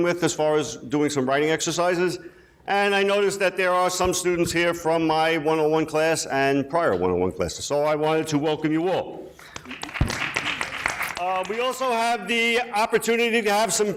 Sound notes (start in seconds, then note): 9.4 people clapping